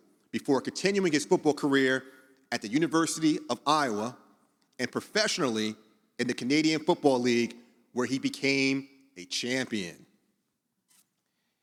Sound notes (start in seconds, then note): none